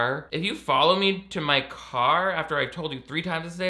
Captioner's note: none